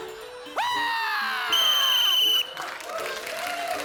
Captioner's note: screams; whistle blows; applause